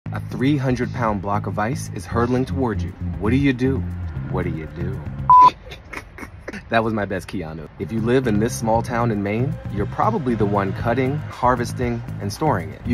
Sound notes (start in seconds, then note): 5.3 buzzer beeps; 5.5 laughs